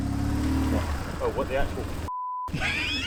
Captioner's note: motorcycle engine droning; beep; laughing